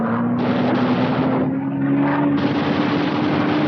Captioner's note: guns firing